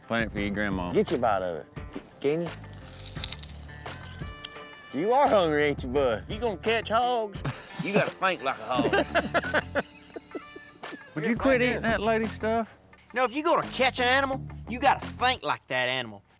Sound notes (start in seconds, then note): 2.4 crunch; 9.0 laughter